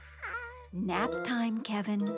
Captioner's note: yawning